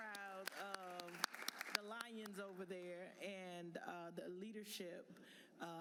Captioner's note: applause